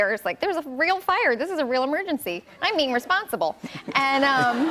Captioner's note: laughter